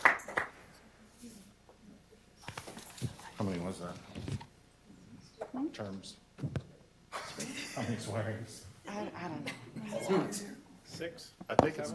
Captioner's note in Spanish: Aplausos